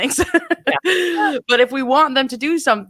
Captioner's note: laughs